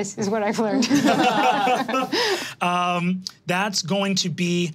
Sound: all laughing

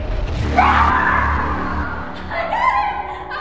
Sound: music intensifies; screams

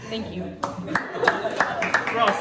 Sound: applause

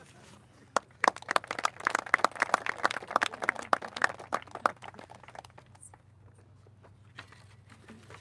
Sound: applauses

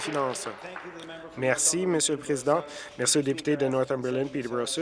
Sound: applause

